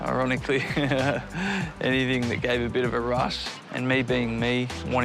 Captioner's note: laughs